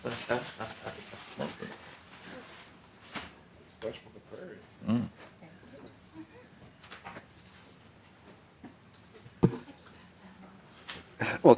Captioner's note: laughing